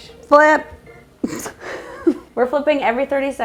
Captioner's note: giggling